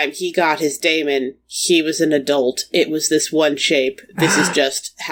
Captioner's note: sighs